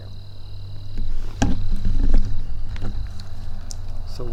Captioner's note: bug noise